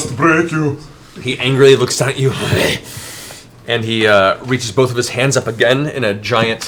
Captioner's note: snarls